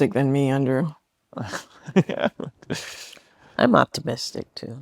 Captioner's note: laughs